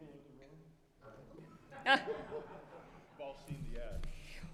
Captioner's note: all laughing